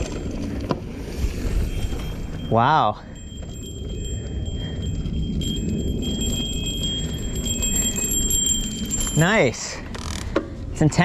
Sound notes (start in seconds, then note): 0.0 bike bell dinging; 0.2 bike rattling; 3.7 bike bell dinging; 7.7 bike rattling